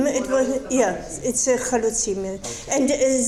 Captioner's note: speaking foreign language